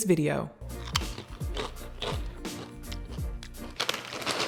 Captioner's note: chips crunching